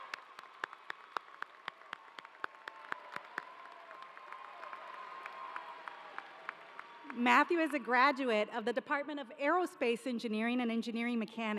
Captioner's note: cheers and applause